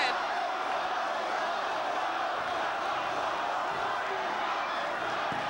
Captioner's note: crowd chants "One more time"